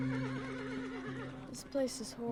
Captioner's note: horse neighing